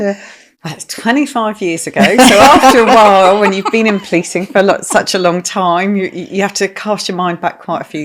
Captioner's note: laughing